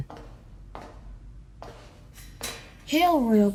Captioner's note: footsteps